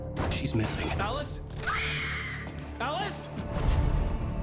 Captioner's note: screaming